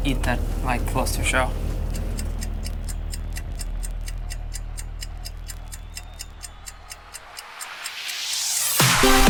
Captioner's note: audience chanting "zedd"; clock ticking